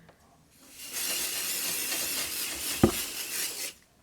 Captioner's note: spray hissing